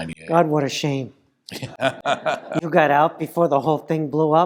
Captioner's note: laugh